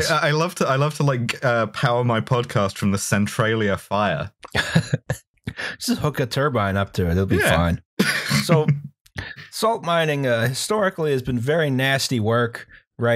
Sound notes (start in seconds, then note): 4.5 laughter